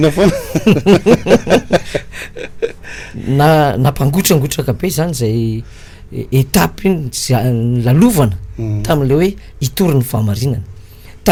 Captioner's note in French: Rire